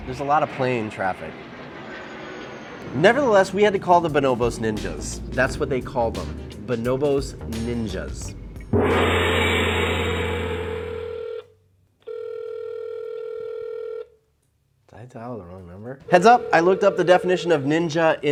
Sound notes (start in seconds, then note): 1.4 plane engine roars; 10.5 phone ringing